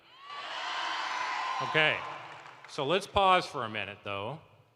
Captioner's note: cheering